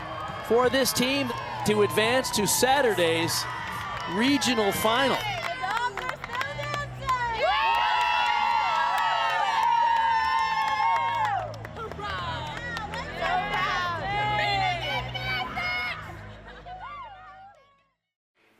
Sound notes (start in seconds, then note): 5.1 team members clapping; 7.0 team members cheering; 8.4 team members clapping; 11.9 indistinct chatters; 16.4 team members cheering